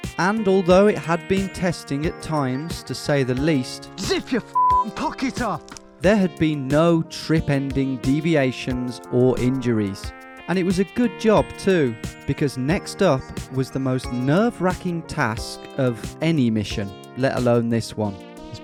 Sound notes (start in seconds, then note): 4.5 beeps